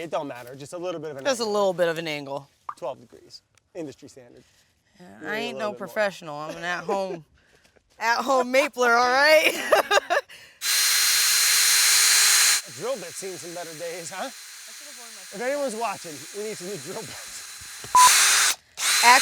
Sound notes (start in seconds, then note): 6.5 laughs; 9.3 laughs; 11.3 drill buzzing; 18.2 drill buzzing